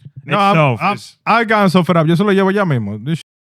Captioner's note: speaking In Foreign Language